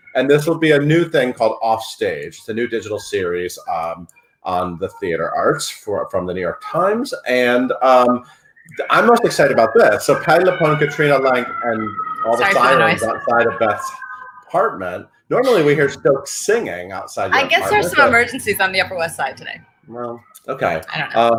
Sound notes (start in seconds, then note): 11.8 siren wails